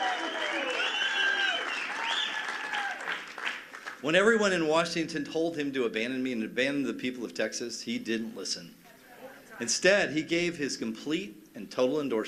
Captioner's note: cheers and applause